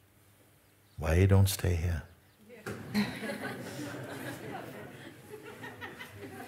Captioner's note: Lachen